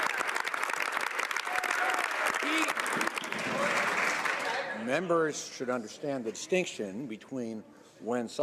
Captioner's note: some Applause